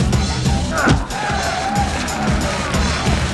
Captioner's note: Boris grunts; kick thuds; crowd cheering